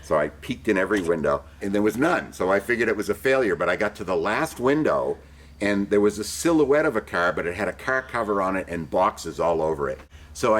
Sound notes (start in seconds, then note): none